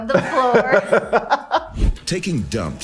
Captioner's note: laughing